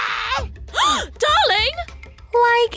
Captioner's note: gasps